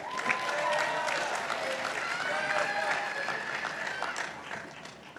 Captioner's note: participants applauding